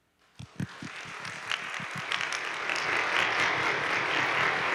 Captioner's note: audience clapping